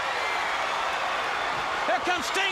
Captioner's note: crowd cheering